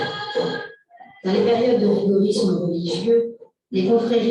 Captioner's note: non-english speech